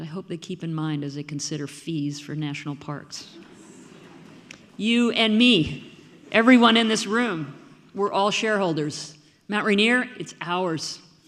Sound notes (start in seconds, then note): 3.4 audience murmuring